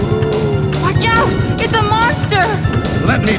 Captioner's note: robust music; creature groaning